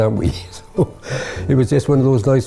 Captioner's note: laughs